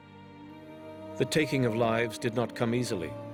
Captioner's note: voiceover